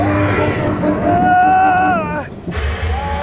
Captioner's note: mild grunts of pain